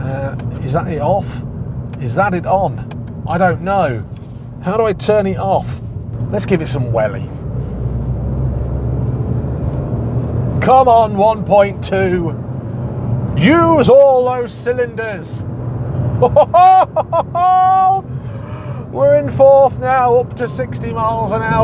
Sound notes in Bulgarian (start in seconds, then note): 11.1 Смях